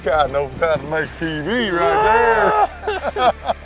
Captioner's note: guys laughing